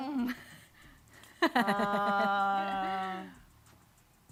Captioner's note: chuckles